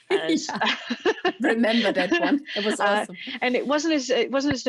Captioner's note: laughs